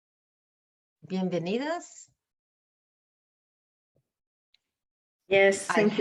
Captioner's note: speaks in Spanish